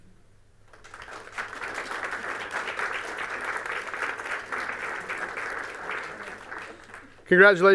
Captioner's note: applause